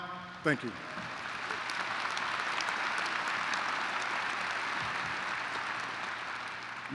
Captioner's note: applause